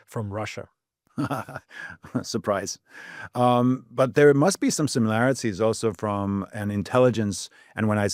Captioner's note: laughs